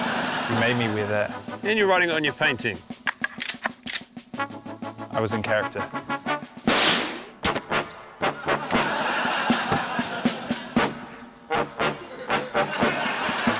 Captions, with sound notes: - You made me wear that. - And you're writing it on your painting. (GUN COCKS) - I was in character. (GUNSHOT) (LAUGHTER)